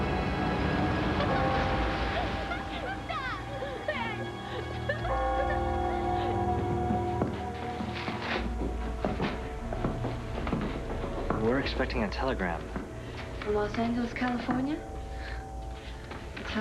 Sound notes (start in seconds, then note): 3.2 children giggling